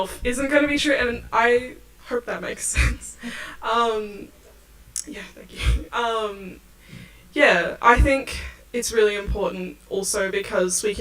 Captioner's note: laughs